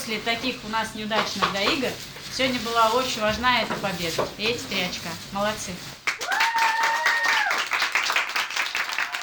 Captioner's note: applause